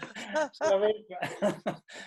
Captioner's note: laughs